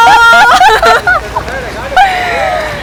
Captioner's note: laughs